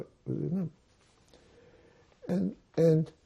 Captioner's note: mumbling